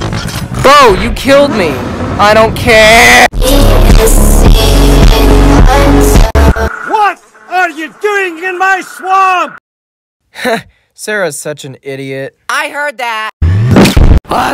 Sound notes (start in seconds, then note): 10.2 scoffs; 13.2 fusion cannon fires; 13.6 explosion